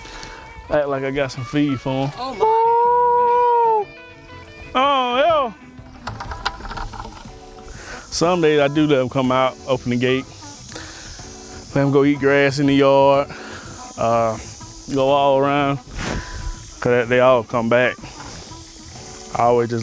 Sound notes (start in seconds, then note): 1.9 howling